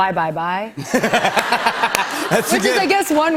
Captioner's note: laughter